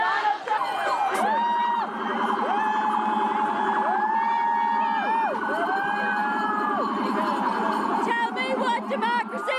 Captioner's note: unison chant; alarm and police siren; chants